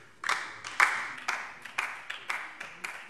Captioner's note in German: Beifall DIE LINKE